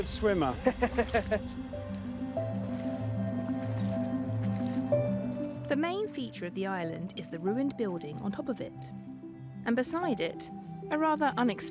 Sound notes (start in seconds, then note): 2.5 laughs; 3.9 gentle music continues